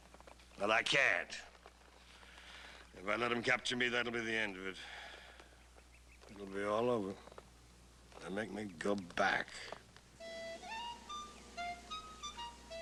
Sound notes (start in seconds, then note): 4.8 sighs